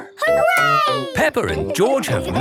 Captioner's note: laughing